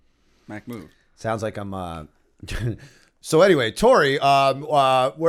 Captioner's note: laughter